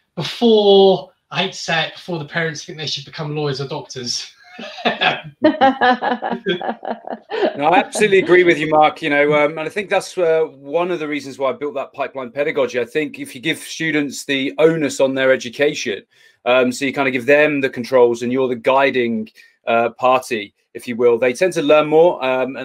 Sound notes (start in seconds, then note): 4.0 laughs; 4.5 laughing